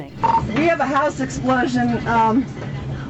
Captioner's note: beep